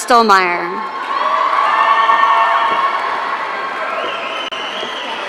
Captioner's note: audience cheering